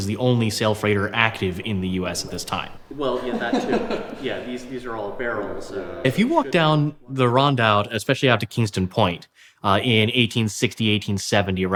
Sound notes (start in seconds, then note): 3.6 laughs